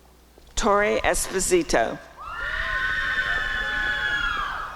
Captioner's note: applause and cheering